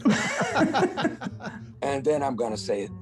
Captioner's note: laughing